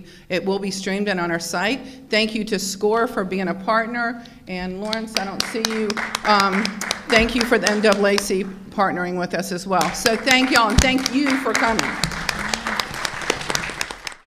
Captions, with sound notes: it will be streamed on our site. Thank you to Score for being a partner and Lawrence, I don't see you. (audience clapping) Thank you for the NAACP partnering with us as well. So thank y'all and thank you for coming. (audiences clapping)